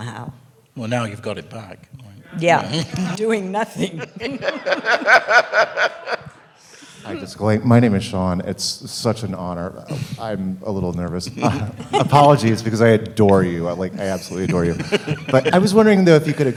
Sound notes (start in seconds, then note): 3.8 laughter